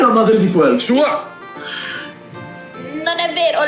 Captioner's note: sighs